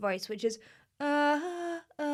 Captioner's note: vocal humming